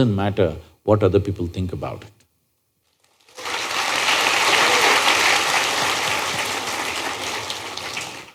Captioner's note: applause